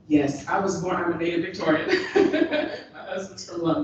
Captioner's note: chuckles